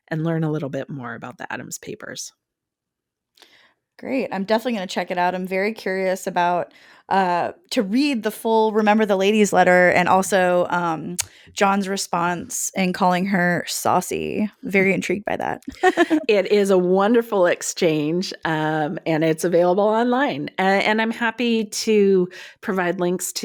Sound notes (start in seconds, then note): 15.7 laughs